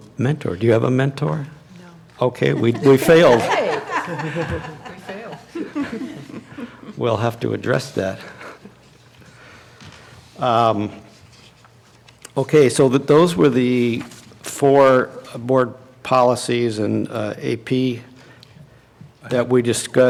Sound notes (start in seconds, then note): 6.3 laughter